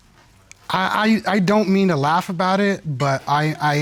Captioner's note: stutters